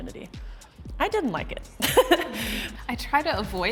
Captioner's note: chuckles